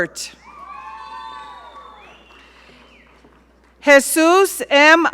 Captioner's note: audience cheering